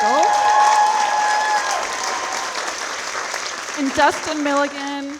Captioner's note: audience applauding